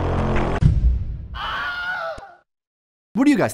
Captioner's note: screams